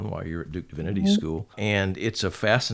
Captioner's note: hums